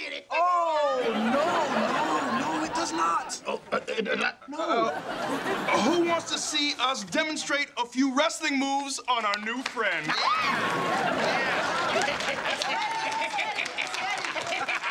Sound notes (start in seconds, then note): 10.0 cheering; 12.9 laughing